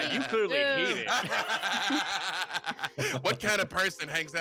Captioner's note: group laughs